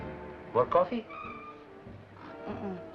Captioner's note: car brakes squeal